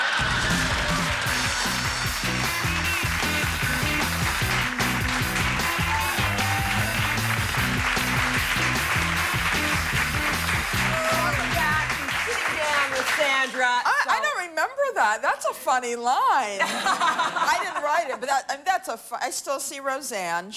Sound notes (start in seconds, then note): 6.1 applause